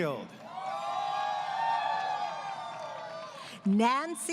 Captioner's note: crowd Cheering